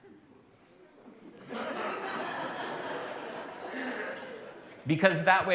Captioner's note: laughter